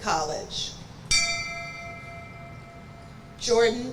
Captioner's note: bell rings